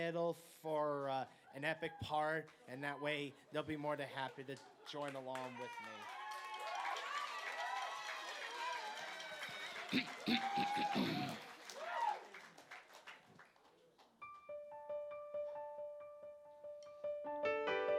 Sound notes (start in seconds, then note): 6.1 applause; 14.3 dramatic piano